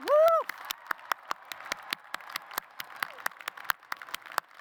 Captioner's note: applause